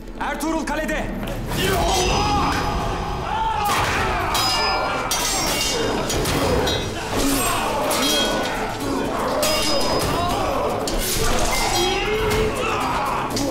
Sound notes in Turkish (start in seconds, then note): 3.6 Dövüş sesleri; 3.6 Kılıç sesleri